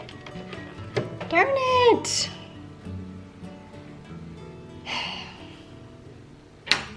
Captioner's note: sigh